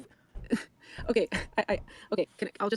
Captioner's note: laughing